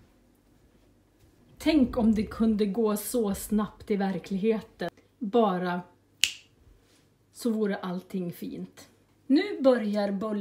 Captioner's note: a snap of the fingers